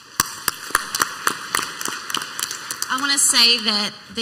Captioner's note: clapping